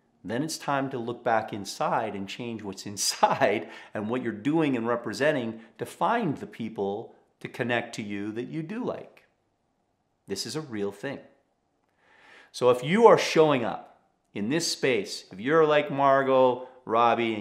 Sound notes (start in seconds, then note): 3.0 chuckling